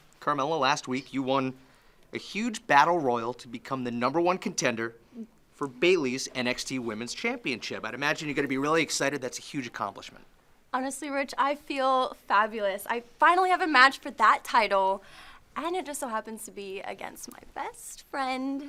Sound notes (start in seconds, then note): none